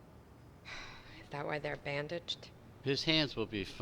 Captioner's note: sighing